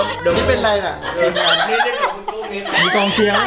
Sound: laughing

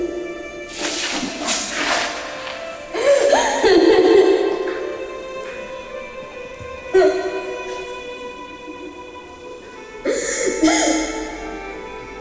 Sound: crying sound

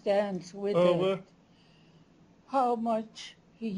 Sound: non-english speech

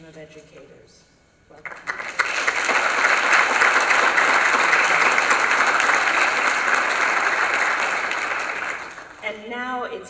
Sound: applause

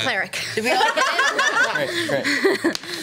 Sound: laughs

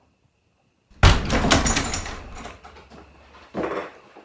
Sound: heavy thud

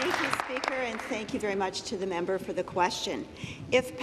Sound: applause

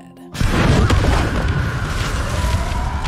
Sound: explosion

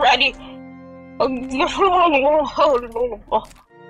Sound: complaining blurbles

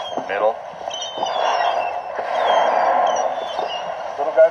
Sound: birds squawking

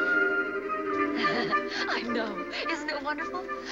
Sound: laughing

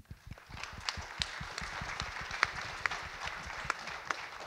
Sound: audience clap

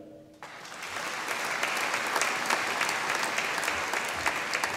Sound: audience applauding

